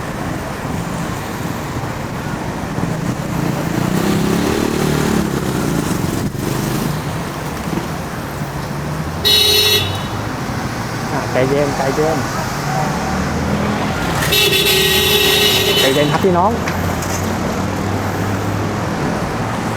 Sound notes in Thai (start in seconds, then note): 9.1 เสียงแตร; 14.1 เสียงบีบแตรยาว